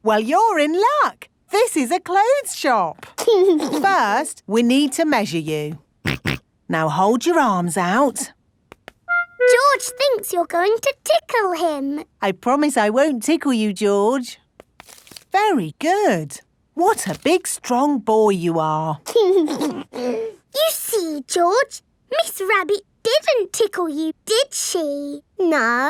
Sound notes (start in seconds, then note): 6.1 snorts; 19.2 giggles